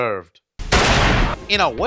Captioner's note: pistol bang